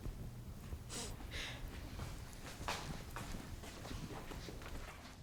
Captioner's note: feet stomping